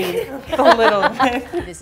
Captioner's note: all laugh